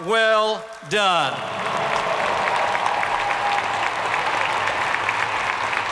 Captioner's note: audience clapping